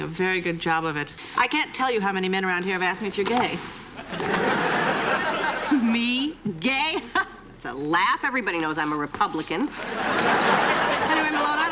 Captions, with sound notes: - Well you're doing a very good job of it. I can't tell you how many men around here have asked me if you're gay. (laughter) - Me, gay (laughs). That's a laugh. Everybody knows I'm a Republican. (laughter)